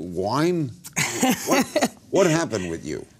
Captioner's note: laughs